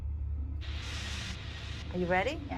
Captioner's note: static sounds